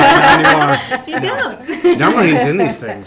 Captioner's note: laughing